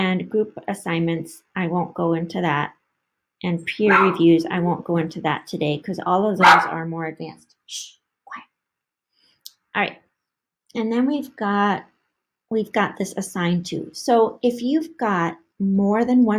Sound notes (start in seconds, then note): 6.4 annoying little dog barking - Shh, quiet